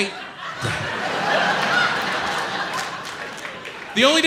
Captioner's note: audience laughs